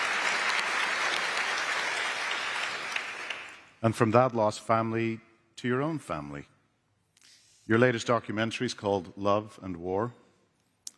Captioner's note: applause